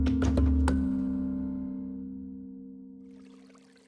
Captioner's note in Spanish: Sonido al cerrar la puerta